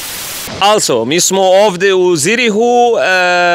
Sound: Serbian

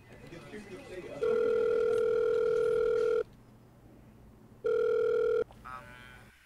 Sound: cellphone rings

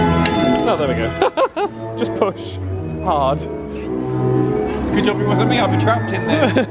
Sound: laughs

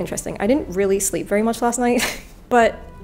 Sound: laughs

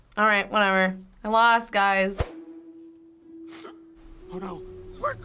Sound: Riley sniffles

